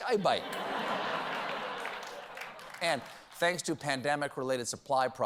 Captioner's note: laughter